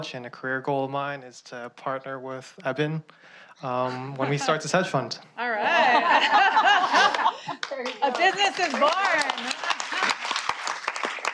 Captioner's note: laughter